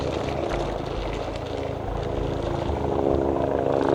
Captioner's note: helicopter flying overhead